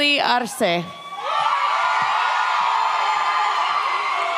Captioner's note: audience cheers